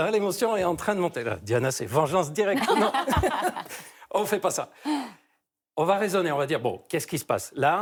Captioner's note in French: rires